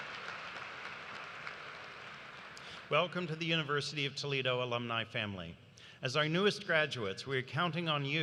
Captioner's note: cheers and applause